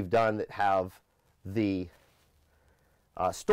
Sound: breathes heavily

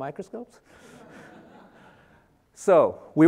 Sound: audience laughing

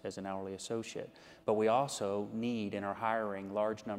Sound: none

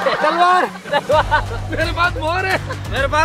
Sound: laughing

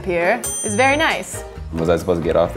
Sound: ding

